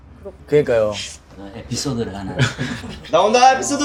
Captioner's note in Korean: 웃음